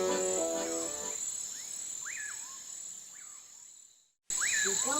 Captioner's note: SOUND: crickets sounds and pious birds